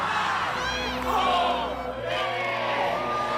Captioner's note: shouting in foreign languages